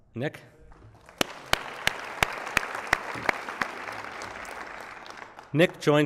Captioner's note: applause